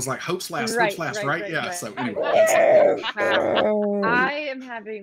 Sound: group laughing

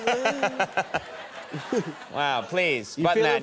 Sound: Conan and audience laughing

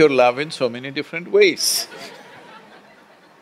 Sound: laughter

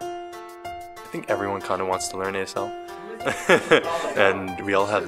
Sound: laugh

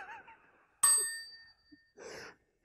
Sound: chime

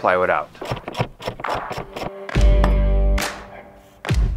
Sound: ratchet clicking

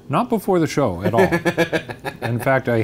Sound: Ryan laughs

